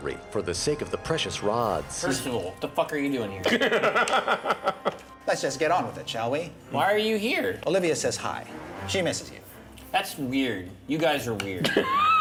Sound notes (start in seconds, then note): 3.4 laughter